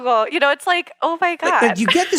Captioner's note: laugh